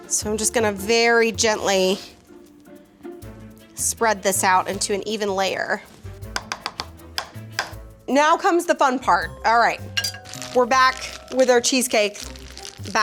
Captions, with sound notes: So I'm just gonna very gently, spread this out into an even layer. (spatula tapping) Now comes the fun part. All right, we're back with our cheesecake